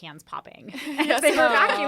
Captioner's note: laughter